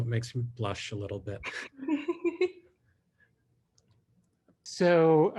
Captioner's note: chuckles